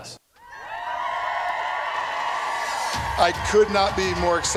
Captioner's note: cheering